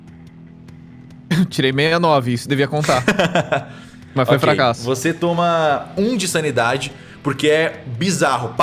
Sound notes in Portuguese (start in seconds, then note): 5.3 Risada